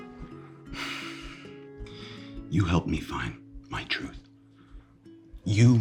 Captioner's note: sighing